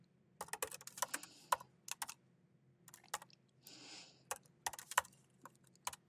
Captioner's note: keyboard clacking continues